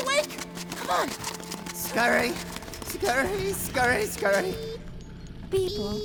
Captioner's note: scurry scurry scurry scurry